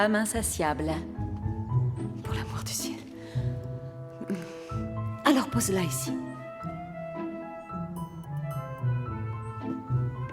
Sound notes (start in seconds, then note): 4.1 sighs; 6.6 upbeat music continues